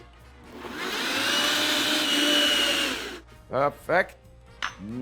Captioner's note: blender running